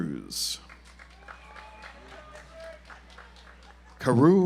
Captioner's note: audience applauds